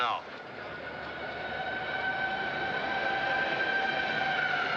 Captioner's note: siren Blaring